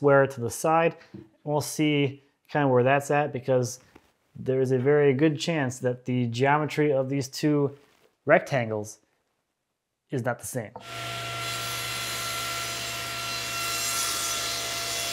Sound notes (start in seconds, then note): 10.8 saw zings